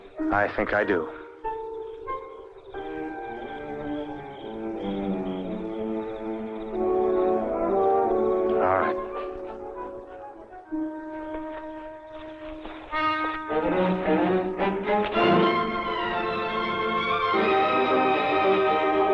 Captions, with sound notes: - I think I do. (soft dramatic music continues) All right. (bushes rustling) (tense orchestral music)